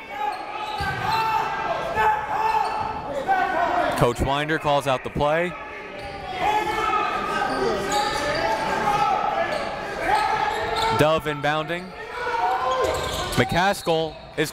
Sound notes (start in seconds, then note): 0.2 coaches yelling; 0.2 crowd talking; 6.7 coaches yelling; 6.7 crowd talking; 13.7 whistle blows